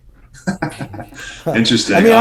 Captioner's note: laughing